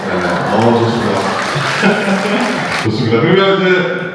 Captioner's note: chuckles